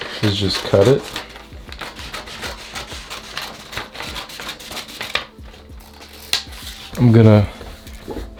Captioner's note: cutting paper sound